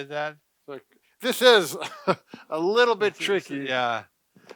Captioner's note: chuckling